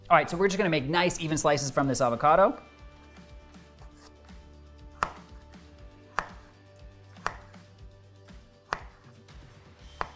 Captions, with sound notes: All right, so we're just gonna make nice even slices from this avocado. (upbeat music) (knife slicing)